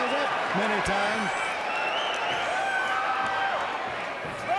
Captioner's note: fans shouting